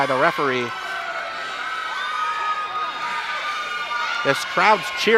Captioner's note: audience cheers